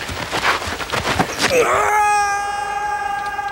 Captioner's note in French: hurlement